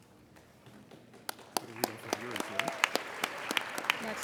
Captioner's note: applauding